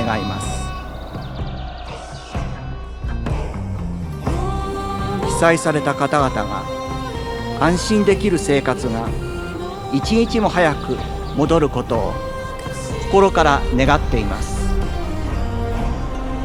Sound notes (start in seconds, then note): 4.6 orator speaking Japanese; 4.6 singer singing in Japanese